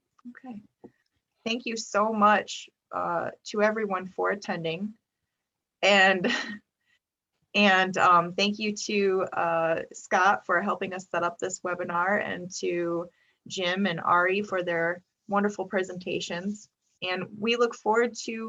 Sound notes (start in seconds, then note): 6.1 laughs